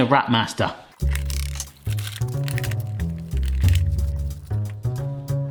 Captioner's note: plastic wrap crinkling